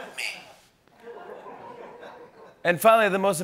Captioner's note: laughter